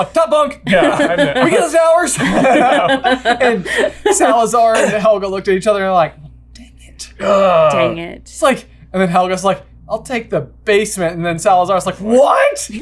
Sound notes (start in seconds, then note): 2.0 laughter